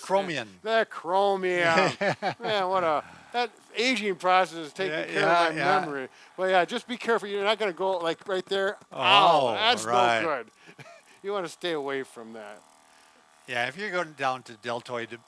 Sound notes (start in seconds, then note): 1.5 laughing